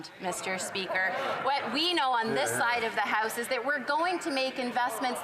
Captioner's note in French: voix de l'interprète